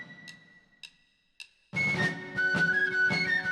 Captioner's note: sticks clicking